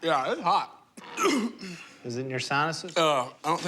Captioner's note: coughs